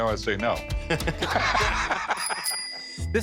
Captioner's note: laughter